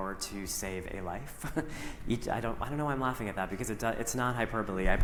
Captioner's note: chuckles